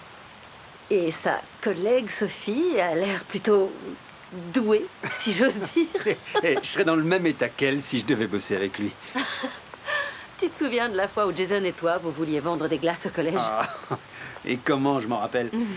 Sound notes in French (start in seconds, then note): 9.0 rire; 13.4 rires